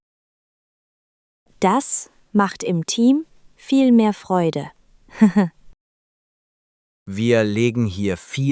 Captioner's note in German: lacht